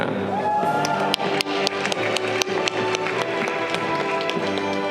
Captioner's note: audience clapping